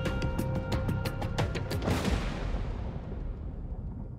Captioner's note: thunder cracks